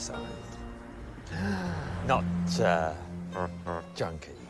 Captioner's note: gasps